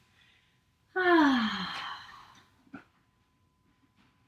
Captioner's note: exhales